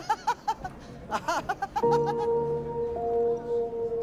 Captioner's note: laughing; laughs